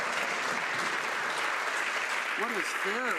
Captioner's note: some Applause